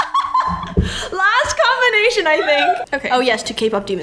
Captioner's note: laughs